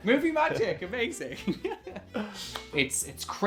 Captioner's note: laughing